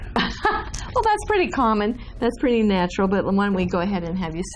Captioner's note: laughs